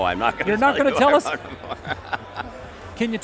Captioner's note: laughing